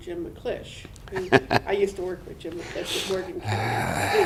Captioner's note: laughter